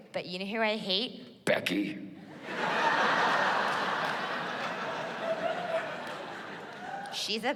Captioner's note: deep voice